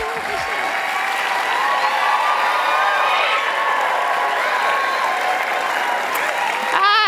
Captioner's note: applause